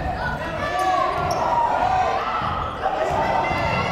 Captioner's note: yelling